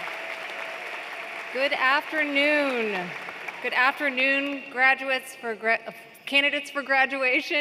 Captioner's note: applause